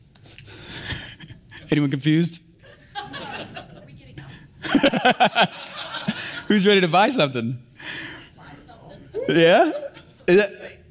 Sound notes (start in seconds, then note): 0.3 laughs; 3.0 audience laugh